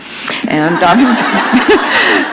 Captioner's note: laughter